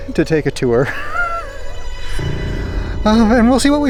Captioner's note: laughs